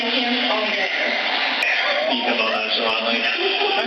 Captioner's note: laugh